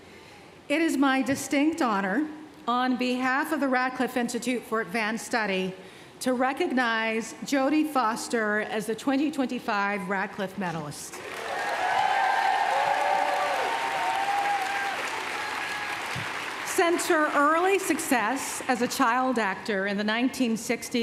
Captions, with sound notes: It is my distinct honor, on behalf of the Radcliffe Institute for Advanced Study, to recognize Jodie Foster as the 2025 Radcliffe medalist. [cheers, applause] Since her early success as a child actor in the 1960s